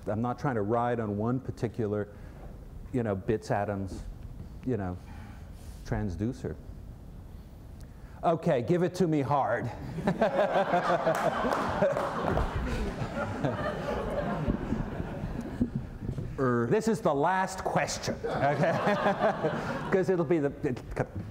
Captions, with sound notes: I'm not trying to ride on one particular bits, atoms transducer. Okay, give it to me hard. [LAUGHS] [LAUGHTER AND CLAPPING] Or this is the last question, okay. [LAUGHTER]